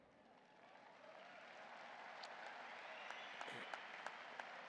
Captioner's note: audience applauding